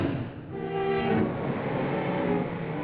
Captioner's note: engine revving; suspenseful music